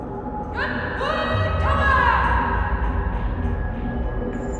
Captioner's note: woman shouting orders